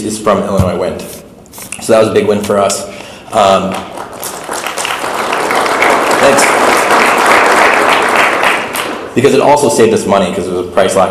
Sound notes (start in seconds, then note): 3.5 audience clapping